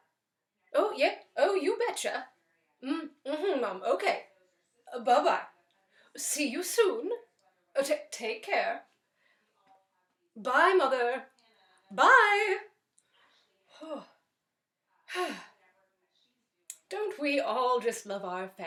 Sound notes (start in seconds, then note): 11.5 sigh